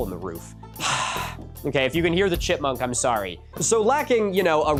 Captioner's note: sigh